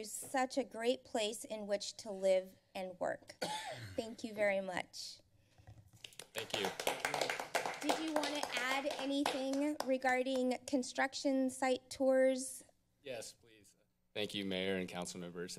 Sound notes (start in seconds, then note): 6.0 applause